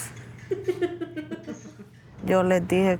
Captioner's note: both laughing